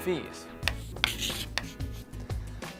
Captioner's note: chalk scribbling